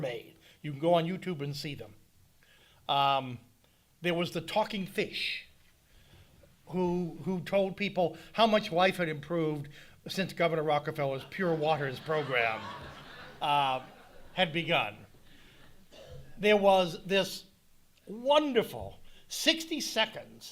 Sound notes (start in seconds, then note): 11.2 speaking over audience laughter